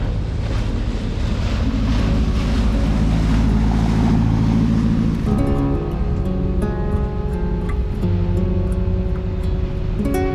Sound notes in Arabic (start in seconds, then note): 1.9 زئير المحرك; 5.2 موسيقى معتدلة